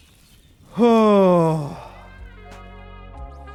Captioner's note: sigh